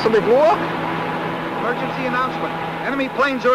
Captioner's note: radio Announcer